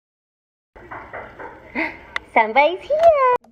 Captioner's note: knocking